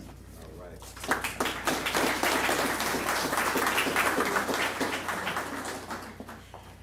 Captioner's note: applause